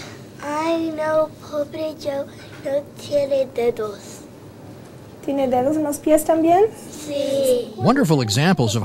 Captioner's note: student and teacher conversing in Spanish